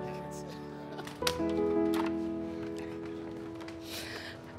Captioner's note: soft music; latch clicks